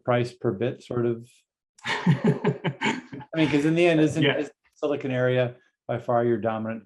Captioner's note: laughter